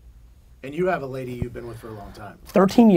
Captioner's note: pat